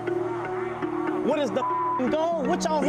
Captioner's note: beeps